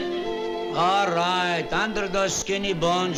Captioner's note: lebanese accent